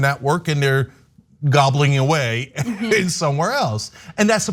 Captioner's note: laugh